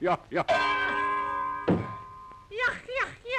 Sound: dong

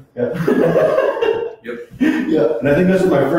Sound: both laugh

